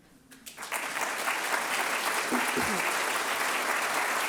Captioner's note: applause